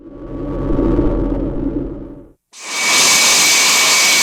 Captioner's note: aircraft whirring